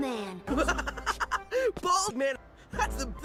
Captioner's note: laff